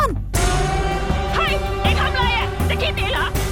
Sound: Malay Language

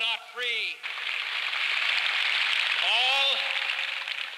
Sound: applause

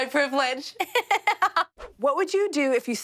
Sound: laughing

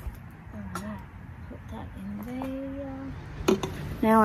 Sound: pot clunks

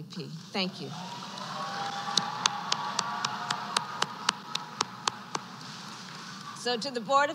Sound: applause

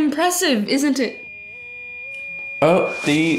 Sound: oven beeping

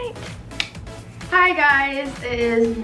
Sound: light clicks off

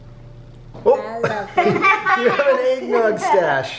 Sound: all laughing

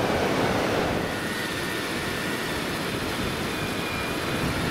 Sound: whirring of the electric reel

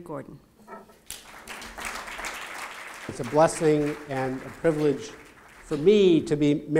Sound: applause

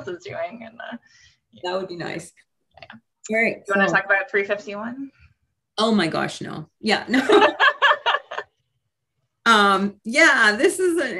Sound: laughing

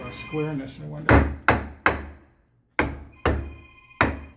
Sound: hammering

